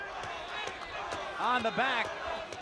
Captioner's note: crowd chatter